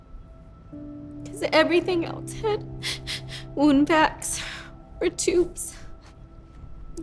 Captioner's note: dramatic music; sobs